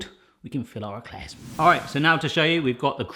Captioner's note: air whooshing